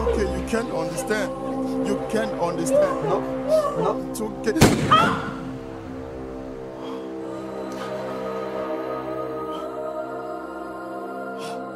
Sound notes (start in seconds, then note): 4.6 gun fires; 7.9 somber choral music